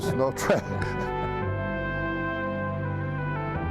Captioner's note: all laughing